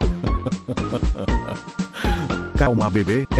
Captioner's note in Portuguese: Risada